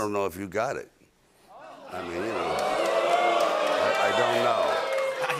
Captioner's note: oohs, cheering, and applause